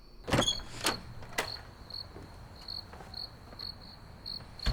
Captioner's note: crickets chirping